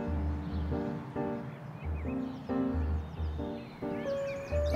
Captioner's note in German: Vogelgezwitscher